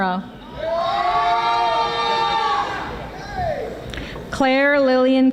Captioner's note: audience applauding